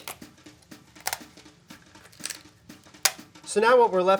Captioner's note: cracking noise